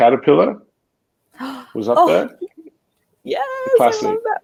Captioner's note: gasp